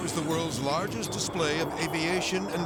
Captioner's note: jet roaring